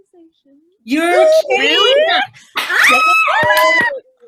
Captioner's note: screaming